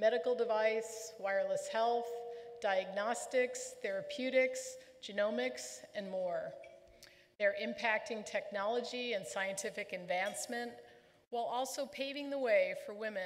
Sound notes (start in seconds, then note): none